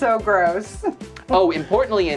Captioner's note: laughs